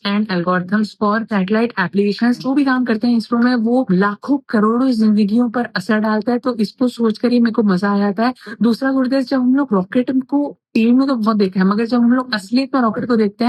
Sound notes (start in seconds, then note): 2.5 speaking in foreign language